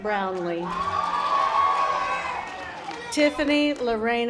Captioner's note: audience applause